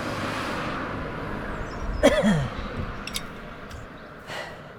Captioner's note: coughs